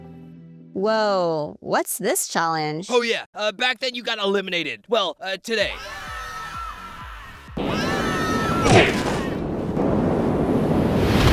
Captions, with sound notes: Whoa… what’s this challenge? Oh yeah, uh, back then you got eliminated– well, uh, today. [DISTANT SCREAMING] [SCREAMING]